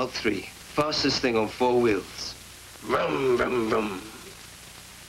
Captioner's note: makes revving noises